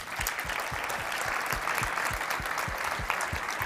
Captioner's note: applause